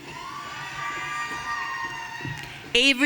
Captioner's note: audience cheering